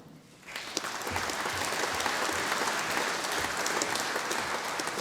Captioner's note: audience applauding